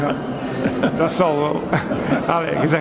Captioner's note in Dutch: lacht